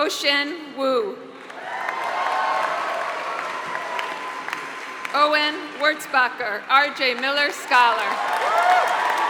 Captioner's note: applause